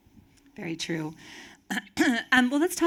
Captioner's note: clears throat